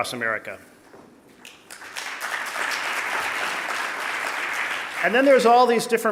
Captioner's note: audience applauding